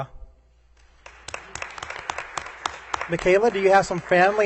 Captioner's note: applause